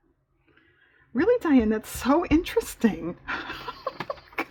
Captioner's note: laughs